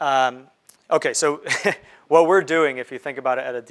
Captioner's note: chuckles